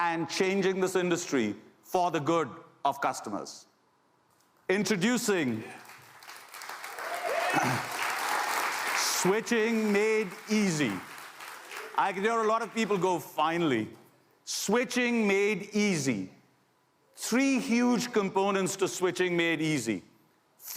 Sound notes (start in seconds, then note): 5.4 applause